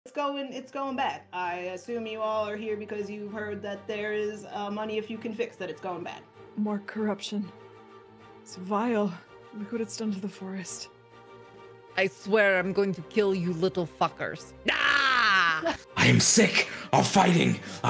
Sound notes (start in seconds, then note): 14.4 maathea yells; 15.9 music goes faster in background